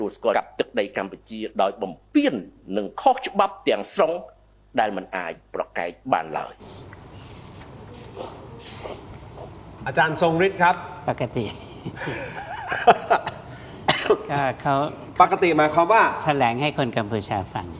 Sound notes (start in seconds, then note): 11.4 laughter